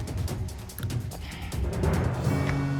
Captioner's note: sighs